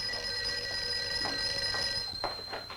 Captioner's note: phone rings